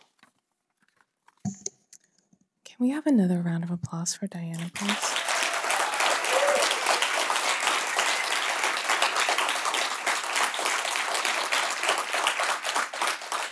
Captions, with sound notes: - Can we have another round of applause for Diana, please? (audience applauding)